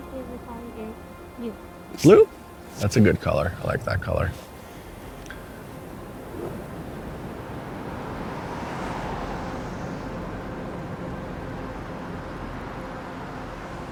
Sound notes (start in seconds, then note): 6.7 traffic humming; 10.4 light ethereal music